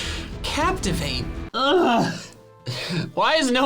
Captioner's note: groans